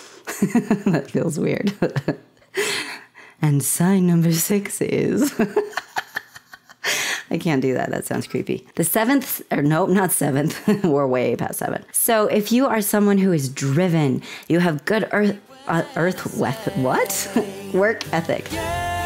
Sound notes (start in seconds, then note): 0.0 laughter; 5.2 laughter